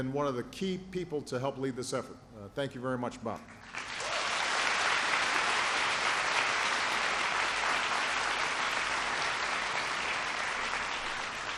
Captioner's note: applause